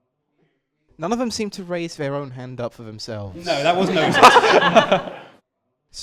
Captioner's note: laughter